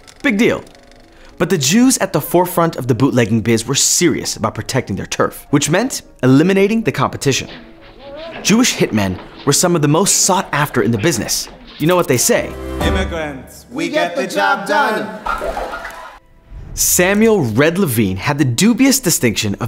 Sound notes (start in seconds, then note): 14.9 audience laughing